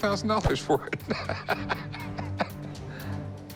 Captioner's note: laughs